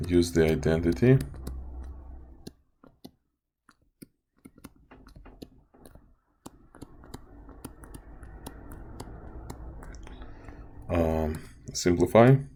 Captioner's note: typing Sounds